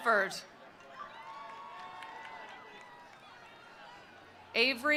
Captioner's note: attendees cheering; attendees applauding